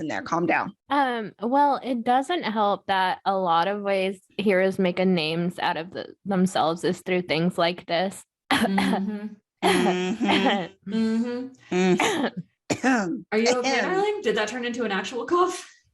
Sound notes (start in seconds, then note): 9.8 noises of frustrated agreement